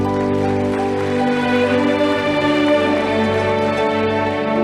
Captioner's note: audience applauding